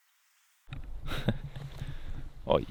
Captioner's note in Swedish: ironiskt skratt